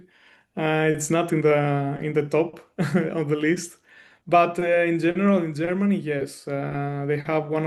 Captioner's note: chuckles